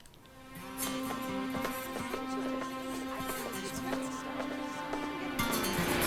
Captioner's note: laughs; slow music; overlapping chattering